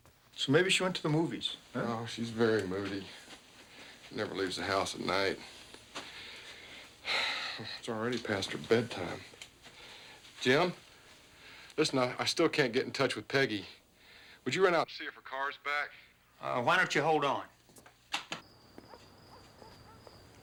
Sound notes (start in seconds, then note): 7.0 stan sighs